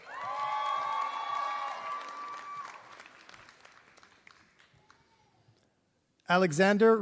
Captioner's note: applause